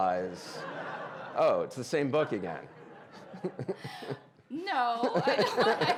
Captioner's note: audience laughing; all laughing; chuckles